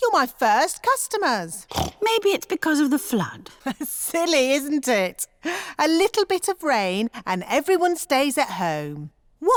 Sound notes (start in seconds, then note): 1.6 snorts; 4.0 laughs